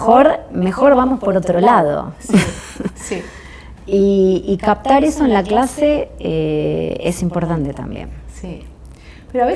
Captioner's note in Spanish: risas